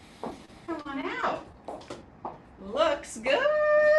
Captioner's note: footsteps approaching